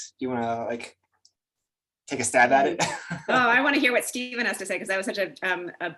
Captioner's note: chuckles